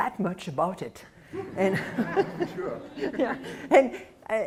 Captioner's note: laughter